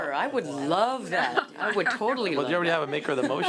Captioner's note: laughs